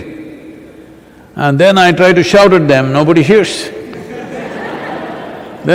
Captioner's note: laughter